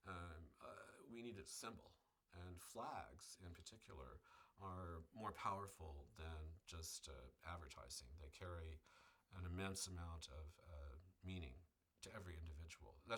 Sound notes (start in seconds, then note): none